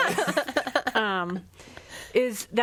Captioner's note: laughs